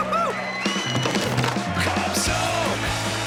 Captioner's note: cheering